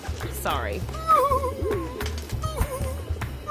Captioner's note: sobs